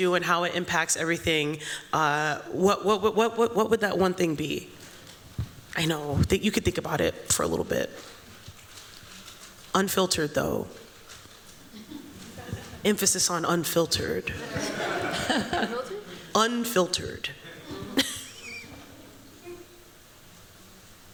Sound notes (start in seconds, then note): 14.4 laughter; 17.4 chuckling